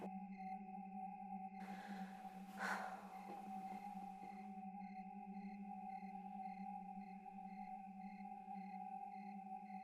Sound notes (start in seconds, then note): 2.5 Jada sighs; 4.6 insects chirp; 4.6 soft haunting music